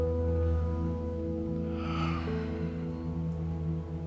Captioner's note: Ben sighs; gentle music